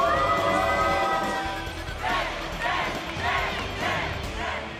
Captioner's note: cheers and applause; fans chanting